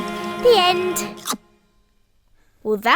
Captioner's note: chomping